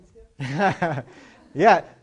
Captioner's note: laughter